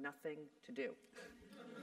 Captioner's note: laugh